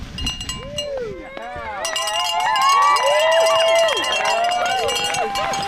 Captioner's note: cheering